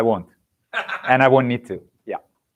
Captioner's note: laughs